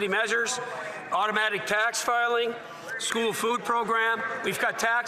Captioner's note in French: voix de l'interprète